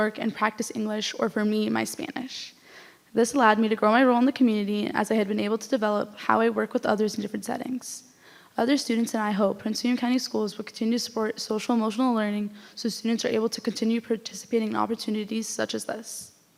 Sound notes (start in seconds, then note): none